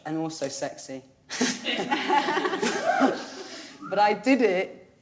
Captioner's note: everyone laughing